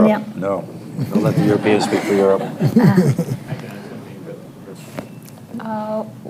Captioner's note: laughter